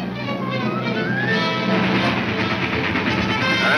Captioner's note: train engine chugging